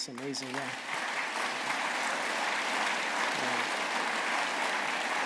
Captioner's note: applause